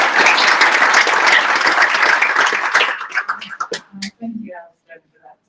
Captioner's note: applause